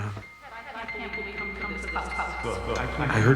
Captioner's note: echoing voices